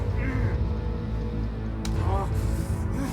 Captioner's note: grunting